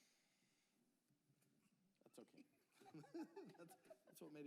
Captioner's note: laughter